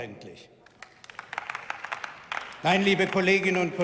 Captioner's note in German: Beifall